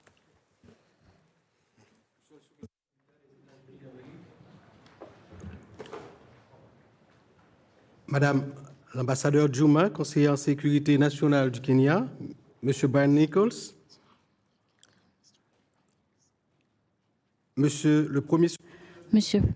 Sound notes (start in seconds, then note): 12.3 in French; 18.8 in French